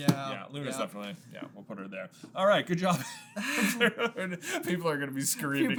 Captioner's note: laughs